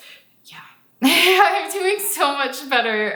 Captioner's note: laughs